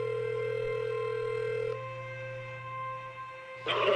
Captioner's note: phone ringing